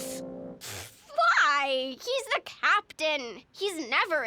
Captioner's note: scoffs